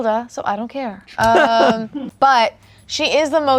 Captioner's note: laughs